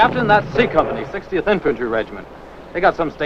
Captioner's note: bomb explodes